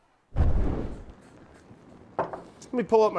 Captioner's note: fire sound effect